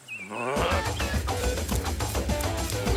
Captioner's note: John grunts; energetic funky music